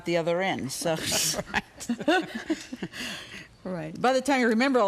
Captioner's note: chuckle